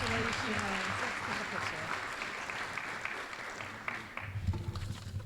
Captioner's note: applause